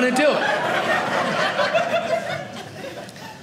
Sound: audience laughing

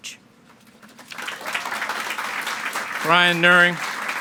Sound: audience clapping

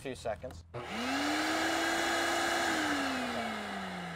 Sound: vacuum whirring

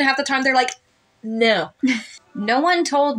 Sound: chuckle

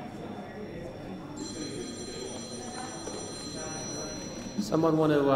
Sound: phone rings

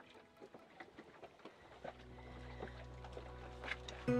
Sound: water lapping

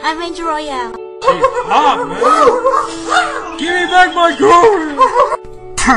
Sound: dog noises

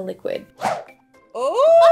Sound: air swooshing

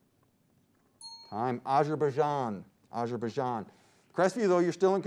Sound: timer dings

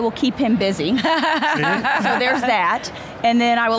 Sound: laughs

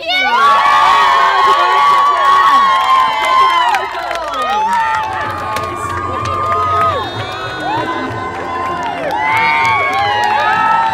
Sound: lots of cheering and screaming

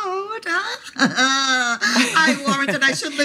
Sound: laughing

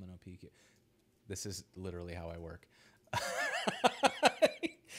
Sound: laughs

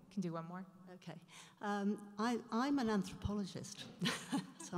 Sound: voiceover

